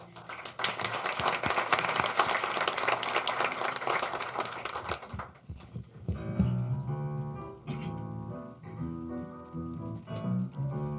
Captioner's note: applause